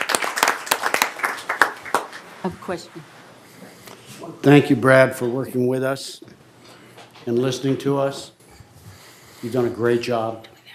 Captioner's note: applause